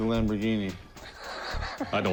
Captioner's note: laughs